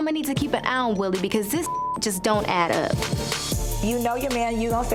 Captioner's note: beep